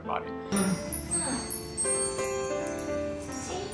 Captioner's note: chimes play